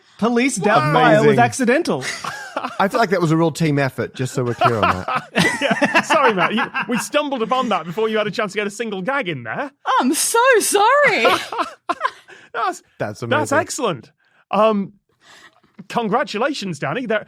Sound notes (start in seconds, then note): 4.1 group laughing; 11.0 laughs